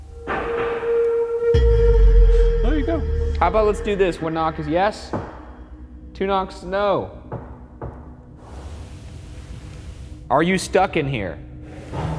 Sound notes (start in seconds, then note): 0.2 knock thudding; 1.0 eerie dramatic music; 5.0 knock thuds; 7.3 knock thudding